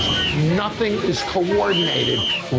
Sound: whistle

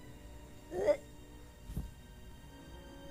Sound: imitates choking

